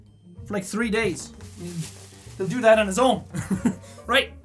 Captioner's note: laughs